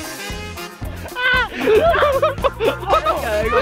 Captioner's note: with happy screams